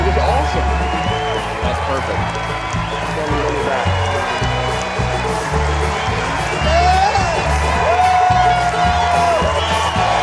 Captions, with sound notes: - Cliff, it's awesome. - That's perfect. (group chattering off camera) (upbeat country music) (audience cheering)